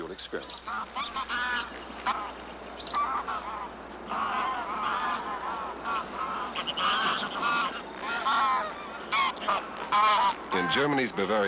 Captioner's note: birds Cawing, Chirping